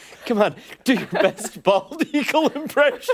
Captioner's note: laughter